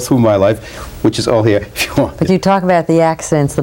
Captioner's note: laughs